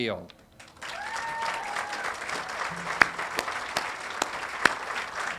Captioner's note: audience applauding and cheering